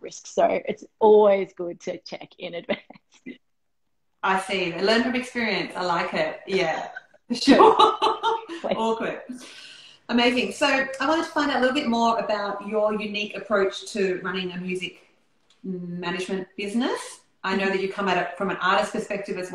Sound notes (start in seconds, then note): 7.6 laughing